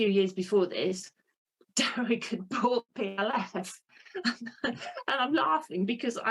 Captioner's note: laughs